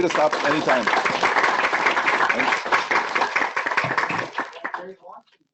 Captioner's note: clapping